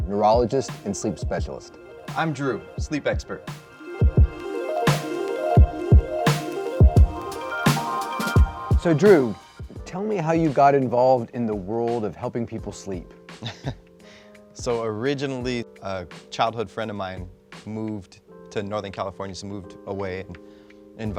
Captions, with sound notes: neurologist and sleep specialist. I'm Drew, a Sleep Expert®. (upbeat electronica music) So Drew, tell me how you got involved in the world of helping people sleep. (man chuckling) So originally, a childhood friend of mine moved to Northern California, so moved away,